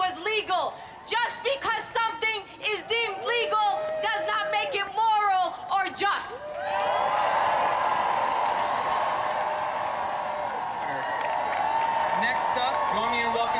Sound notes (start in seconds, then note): 6.4 cheering and applause